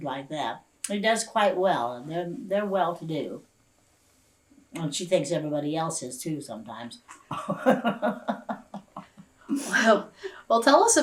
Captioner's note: laughs